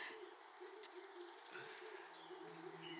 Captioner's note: Kisses